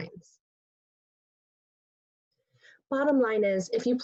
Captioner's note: pause